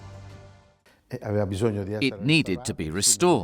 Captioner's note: speaking in foreign language